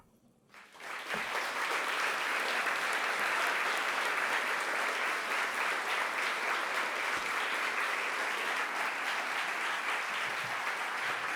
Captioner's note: applause